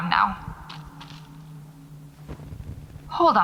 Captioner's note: footsteps